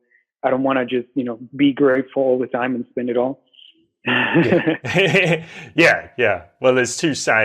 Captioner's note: laughter